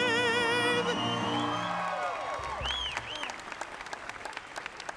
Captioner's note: applause